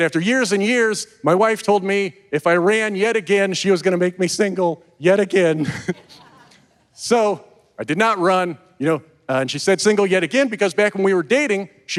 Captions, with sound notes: after years and years, my wife told me if I ran yet again, she was going to make me single yet again. (chuckles) (audience member laughs) So I did not run. You know, and she said single yet again because back when we were dating,